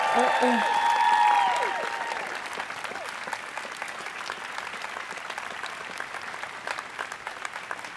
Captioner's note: cheers and applause